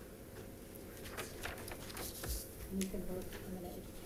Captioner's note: paper rustling